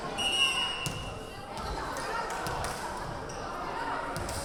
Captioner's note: whistle blowing